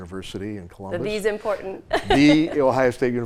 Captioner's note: laughs